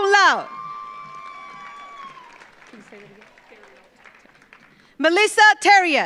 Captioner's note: audience cheers; audience applauds